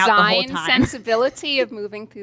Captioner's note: laughs